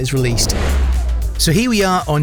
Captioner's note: air whooshing